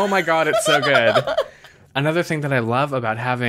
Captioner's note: laughs